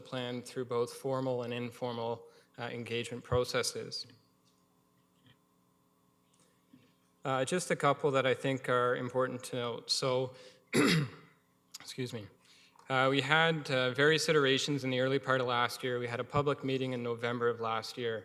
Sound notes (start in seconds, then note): 10.7 coughs